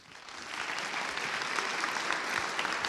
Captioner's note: applause